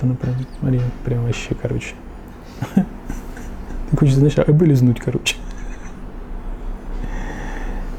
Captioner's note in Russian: смех